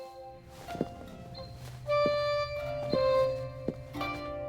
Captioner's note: footsteps thudding